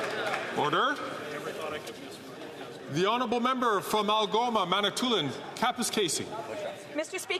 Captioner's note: some Applause